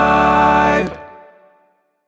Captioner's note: sleigh bells jingling